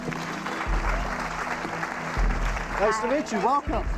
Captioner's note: applause